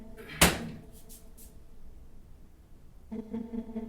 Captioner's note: door thuds